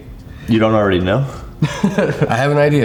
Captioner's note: laughs